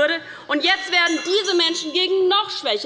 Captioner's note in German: Unruhe - Glockenzeichen des Präsidenten